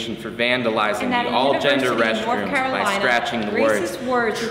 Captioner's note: group chattering